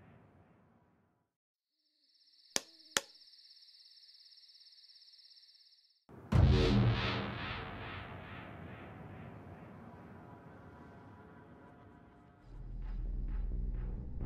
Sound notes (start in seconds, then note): 1.8 crickets chirping; 6.2 suspenseful music